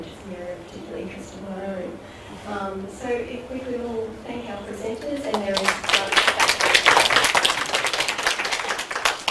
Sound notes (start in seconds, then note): 5.2 audience clapping